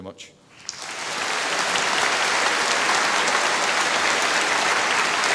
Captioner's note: applause